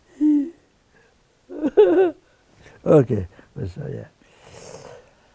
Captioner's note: laughing